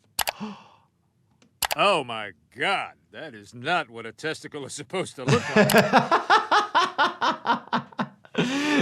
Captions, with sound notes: (doctor gasps) - Oh my god, that is not what a testicle is supposed to look like. (doctor laughs)